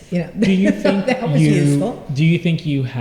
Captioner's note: laughter